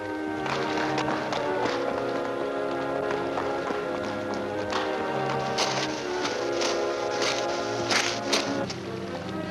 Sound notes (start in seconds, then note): 0.0 ominous music; 0.3 footsteps and splashing; 6.1 ominous music